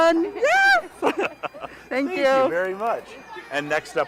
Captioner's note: both laughing